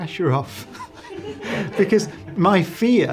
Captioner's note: laughs